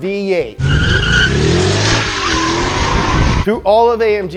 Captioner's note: tires screeching